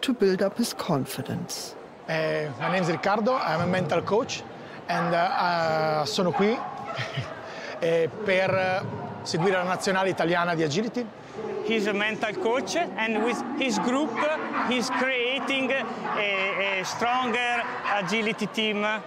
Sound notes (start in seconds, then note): 5.5 speaks in Italian